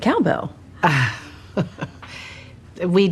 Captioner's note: laughs